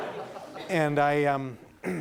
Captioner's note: laughing